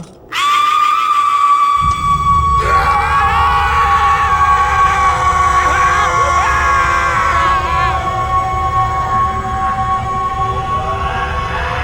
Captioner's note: horrible, high-pitched wale